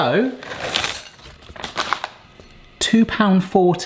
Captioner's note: chocolate clinks